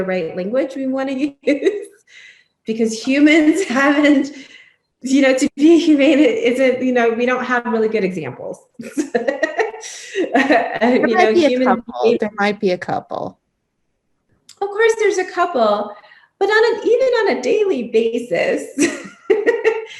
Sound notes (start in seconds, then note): 10.2 laughing